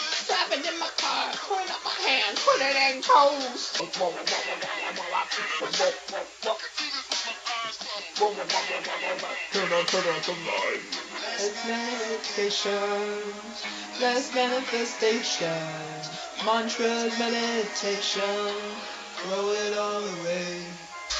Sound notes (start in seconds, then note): 3.8 imitating the dubstep wubs